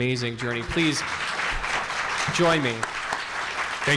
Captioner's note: audience clapping